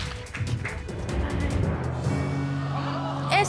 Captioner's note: audience exclaims